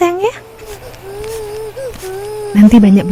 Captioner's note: cry